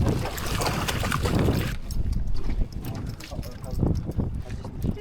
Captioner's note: wind blowing